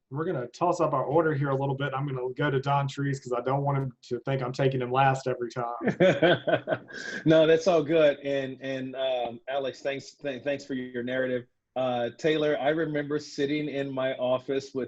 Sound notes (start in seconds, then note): 5.5 laughs